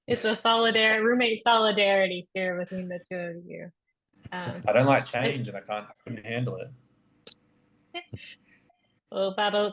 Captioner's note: chuckles